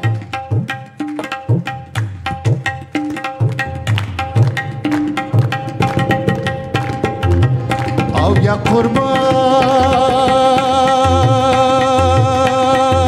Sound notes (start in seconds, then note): 0.1 lively tabla drumming; 4.0 audience rhythmically clapping; 8.2 singing in a language other than English